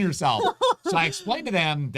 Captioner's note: laughs